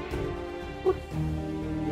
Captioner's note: sniffles